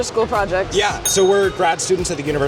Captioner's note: ding